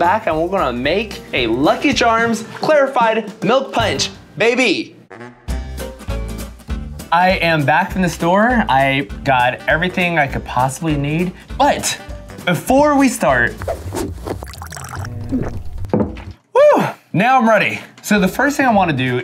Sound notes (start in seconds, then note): 5.0 gentle upbeat music; 13.6 dramatic whooshing; 14.2 drink pouring; 14.3 gulping